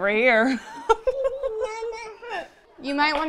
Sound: laughs

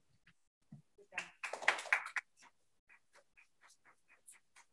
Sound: clapping

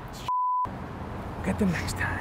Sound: beep

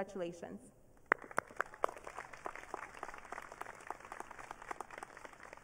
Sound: audience cheering

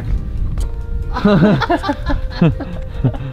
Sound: chuckles

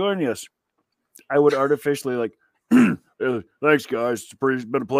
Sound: clears throat

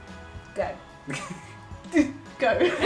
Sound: laughs

